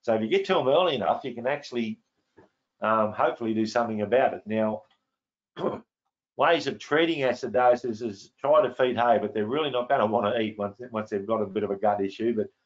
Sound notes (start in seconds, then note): 5.6 clears throat